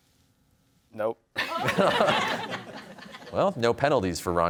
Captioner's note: laughter